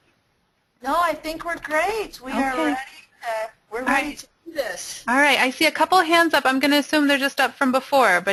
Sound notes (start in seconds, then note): 5.3 voiceover